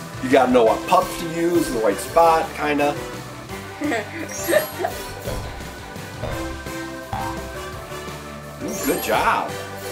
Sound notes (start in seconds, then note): 3.8 assistant chuckling